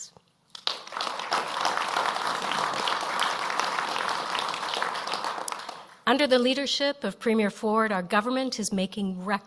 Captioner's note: applause